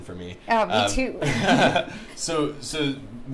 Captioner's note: laughing